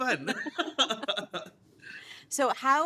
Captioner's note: both laugh